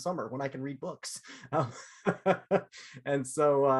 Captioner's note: laughter